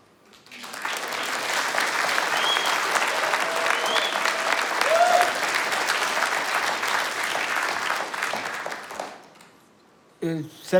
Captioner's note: applause and Cheers